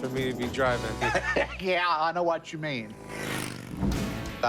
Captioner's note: laughs